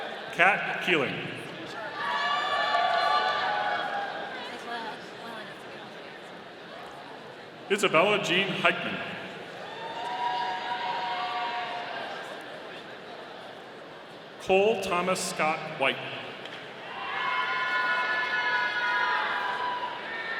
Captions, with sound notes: Kat Keeling. (audience cheering) Isabelle Jean Heichman. (audience cheering) Cole Thomas Scott White. (audience cheering)